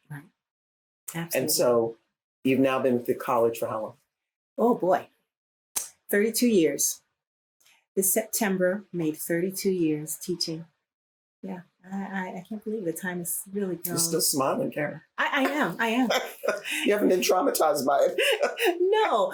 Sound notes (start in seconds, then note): 15.4 laughter